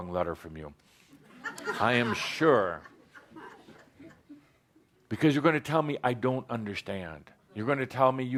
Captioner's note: laughter